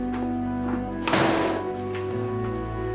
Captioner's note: door closes